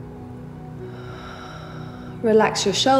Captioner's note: heavy breathing